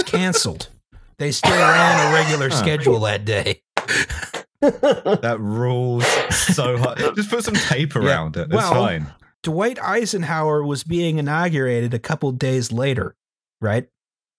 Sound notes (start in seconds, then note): 1.4 laughs; 3.8 claps slowly